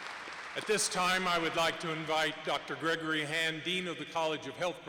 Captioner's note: applause